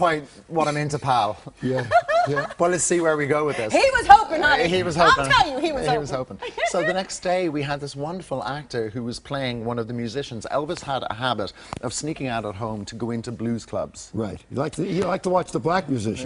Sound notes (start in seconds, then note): 3.1 laughter